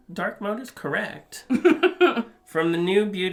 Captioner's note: laughs